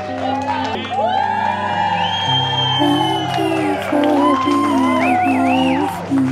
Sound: crowd cheers

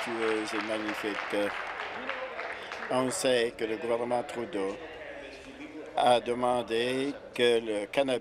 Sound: applause

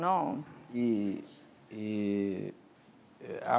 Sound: speaking portuguese

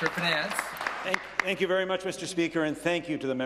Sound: applause

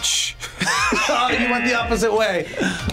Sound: buzzer rings; buzzer; laughs

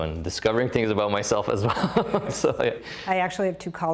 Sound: laughs

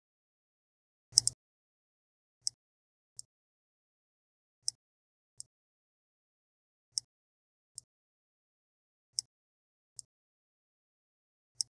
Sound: mouse clicks

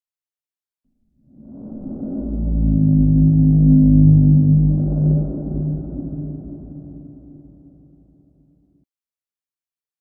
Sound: moan

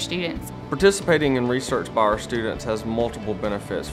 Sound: voiceover

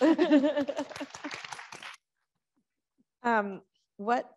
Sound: audience clapping

